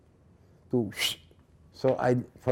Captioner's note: whistling